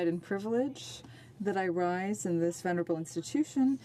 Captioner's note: speaking french